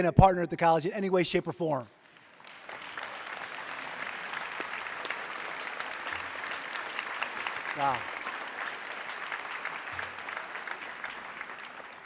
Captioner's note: applause